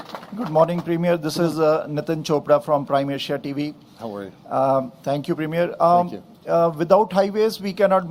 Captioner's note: applause